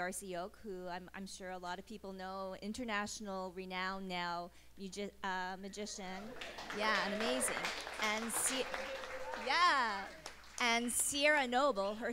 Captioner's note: applause